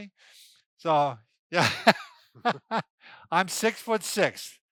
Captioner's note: laughs